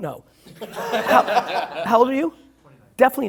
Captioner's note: laughing